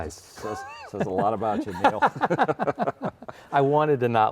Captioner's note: both laughing